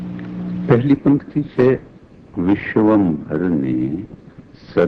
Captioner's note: speaking foreign language